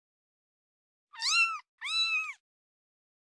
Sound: meow Meow

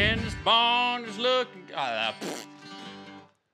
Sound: spits

